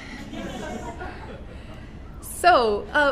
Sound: audience laughs

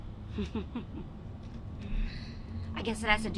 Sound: Catwoman laughing

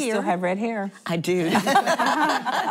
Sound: laughter

